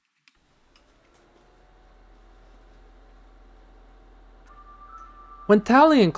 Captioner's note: projector warm-up sound